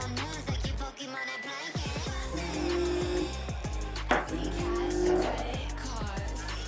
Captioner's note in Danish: mobiltelefon brummer